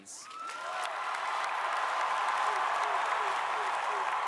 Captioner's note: crowd cheering